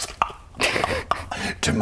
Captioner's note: ck-ck-ck